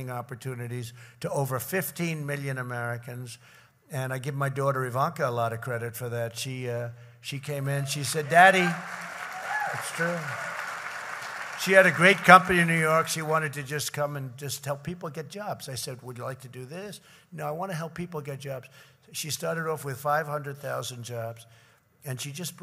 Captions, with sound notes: opportunities to over 15 million Americans. And I give my daughter, Ivanka, a lot of credit for that. She -- she came in, she said, "Daddy..." (applause) It's true. She had a great company in New York. She wanted to just come and just help people get jobs. I said, "Would you like to do this?" "No, I want to help people get jobs." So she started off with 500,000 jobs, and she just